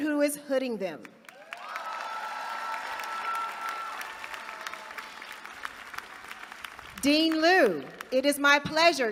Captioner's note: applause